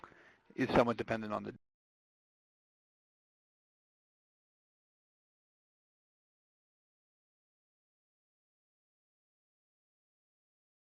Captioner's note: 15 second audio pause